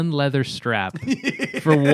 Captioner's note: laughter